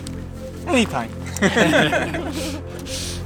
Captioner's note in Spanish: Risas